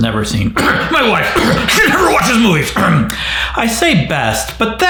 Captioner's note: coughs